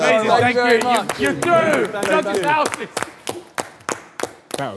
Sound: clapping

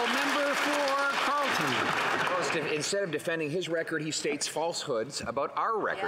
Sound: some Applause

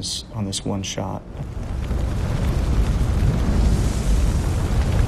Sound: fire blazing

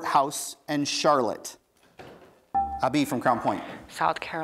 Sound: buzzer beeps

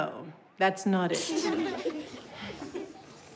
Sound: children laughing

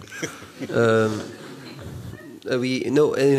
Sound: laughter

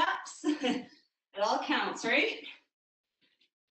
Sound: chuckles

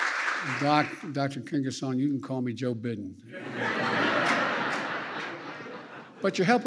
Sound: laughter

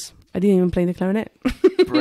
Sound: laughs

